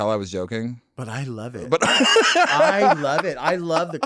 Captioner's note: laughing